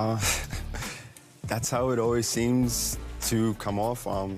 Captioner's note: chuckles